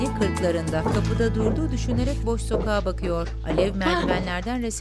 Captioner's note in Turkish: Ayak sesi